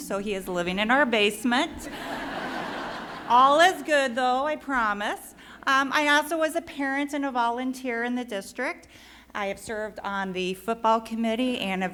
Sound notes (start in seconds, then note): 1.9 laughing